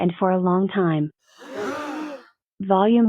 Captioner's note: all gasp